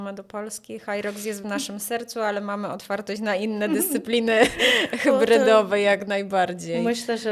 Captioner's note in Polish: śmiech